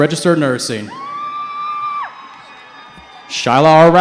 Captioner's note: cheering